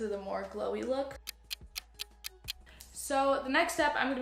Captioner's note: clock ticking